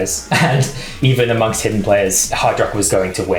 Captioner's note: chuckles